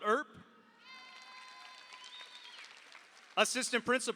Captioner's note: audience cheers; audience applauds